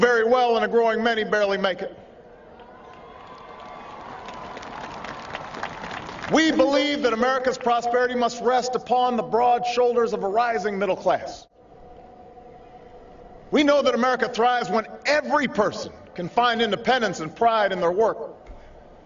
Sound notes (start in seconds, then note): 4.1 applause